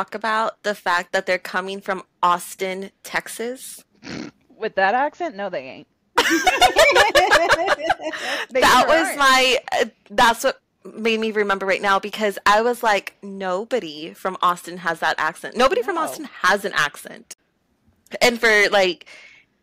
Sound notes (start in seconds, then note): 4.0 snorts; 8.7 laughter